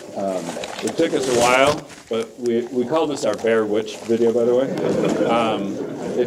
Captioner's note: laughter